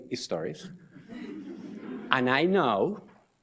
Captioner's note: audience laughs